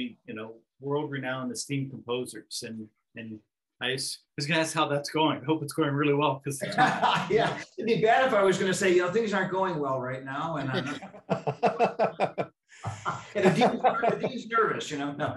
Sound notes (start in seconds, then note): 6.6 laughs drowns the speaker; 10.7 laughs drowns the speaker